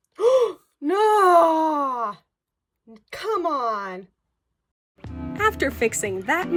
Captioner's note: dramatic gasp